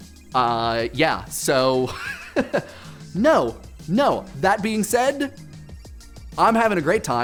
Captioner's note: laughs